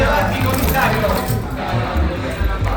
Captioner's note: people chattering; chain rattling; people chattering